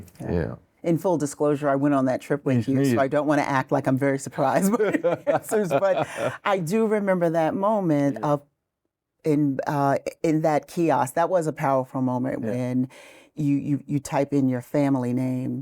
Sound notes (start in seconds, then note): 6.1 laughs